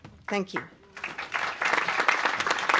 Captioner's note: applause